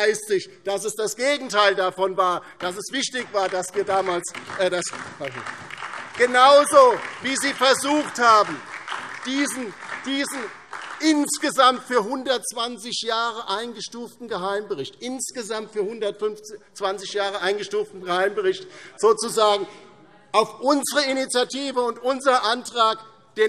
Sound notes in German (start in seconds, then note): 5.7 Beifall DIE LINKE und SPD